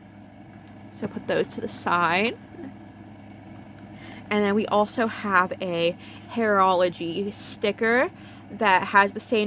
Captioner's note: laughs